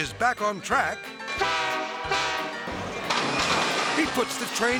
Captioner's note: train whistle blowing